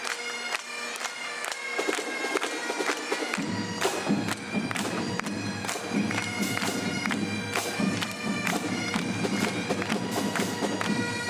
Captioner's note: clapping